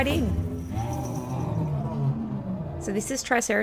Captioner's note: roar sound